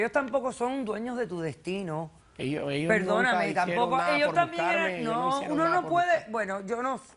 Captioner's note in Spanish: Hablan al unísono